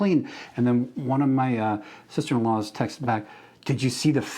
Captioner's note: none